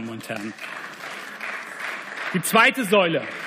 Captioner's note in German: Beifall